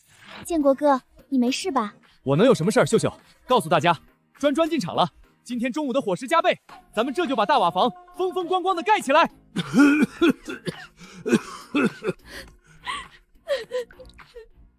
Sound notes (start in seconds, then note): 9.5 cough cough cough